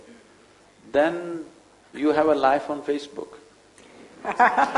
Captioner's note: laughter